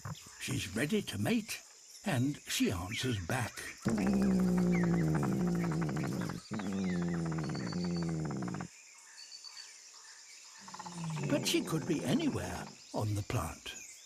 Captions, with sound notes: She's ready to mate, and she answers back. (DEEP, RESONANT RUMBLING) But she could be anywhere on the plant.